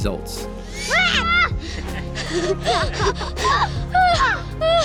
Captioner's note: yell briefly an laugh